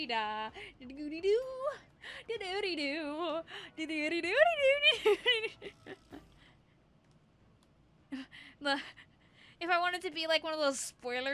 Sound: laughter

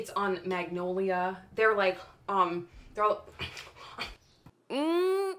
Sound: frustrated breathing; voiceover

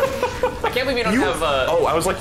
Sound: laughing

